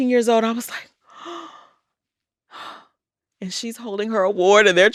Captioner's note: gasps